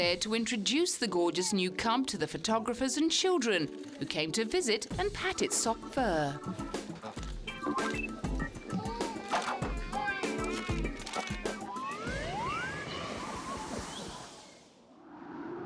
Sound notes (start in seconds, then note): 8.6 baby cooing; 10.7 birds chirping